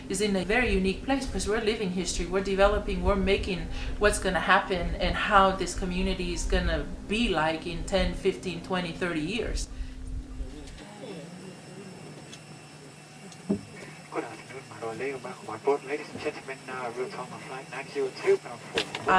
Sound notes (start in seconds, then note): 10.6 plane engine roaring; 15.4 speaks in foreign language